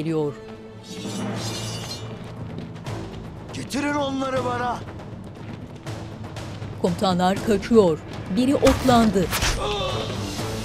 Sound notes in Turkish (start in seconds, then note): 0.9 Kılıç sesleri; 9.2 Ok sesi